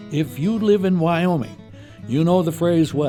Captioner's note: voiceover